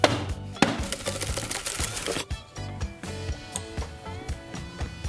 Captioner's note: blender banging; toppings rattling